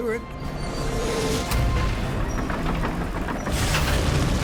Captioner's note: tank exploding